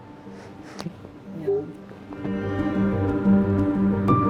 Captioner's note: cries softly